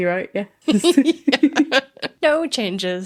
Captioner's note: laughing